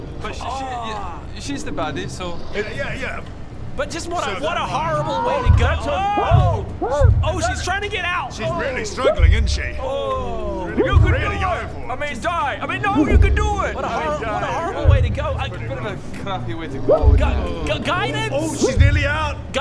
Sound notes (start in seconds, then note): 6.4 muffled HELP!; 17.0 panicked noises